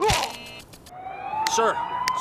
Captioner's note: siren